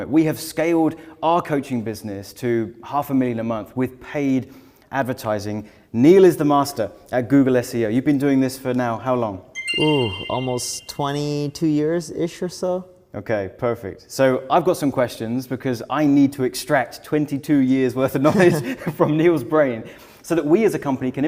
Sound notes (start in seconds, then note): 9.5 graphic chiming; 18.2 both chuckle